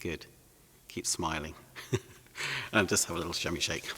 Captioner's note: laughs